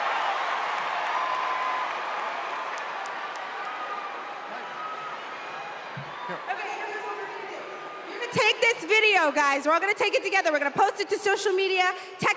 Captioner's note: cheers and applause